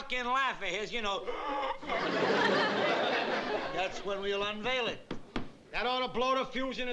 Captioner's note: gasping